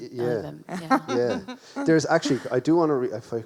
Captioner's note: laughs